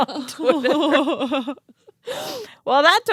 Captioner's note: both laugh